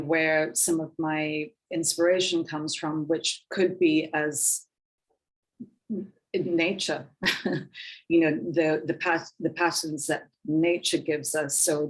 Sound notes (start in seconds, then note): 7.2 woman chuckling